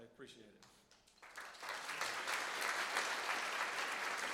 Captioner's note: applause